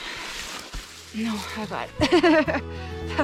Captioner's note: laughter